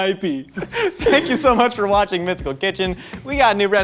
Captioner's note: laughs